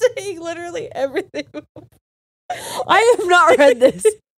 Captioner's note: all laughing